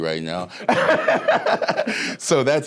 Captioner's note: all laughing